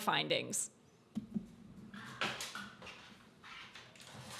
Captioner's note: clattering